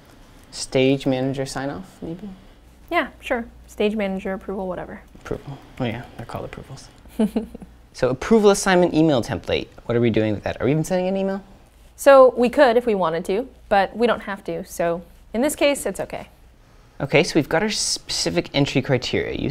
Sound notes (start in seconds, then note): 7.1 laugh